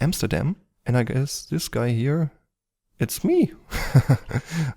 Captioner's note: laughs